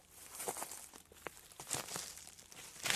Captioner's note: none